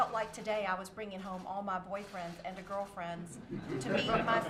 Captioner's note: laughter